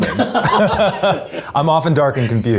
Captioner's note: both laugh